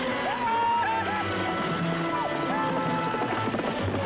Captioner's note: screaming